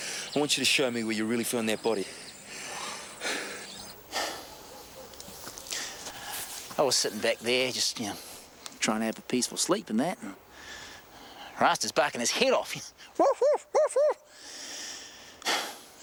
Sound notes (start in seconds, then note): 2.0 breathing heavily; 13.1 barking